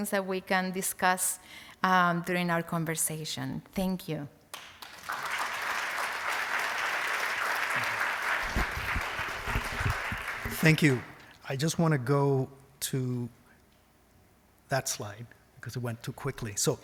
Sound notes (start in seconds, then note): 4.5 applause